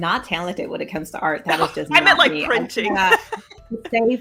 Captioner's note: laughs